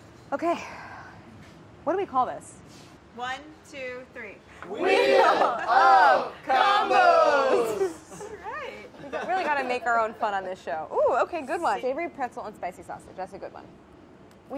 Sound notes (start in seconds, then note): 7.4 laughing